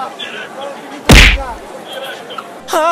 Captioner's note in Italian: punch